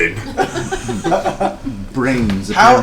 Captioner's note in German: Gelächter